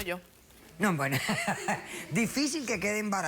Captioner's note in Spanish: risas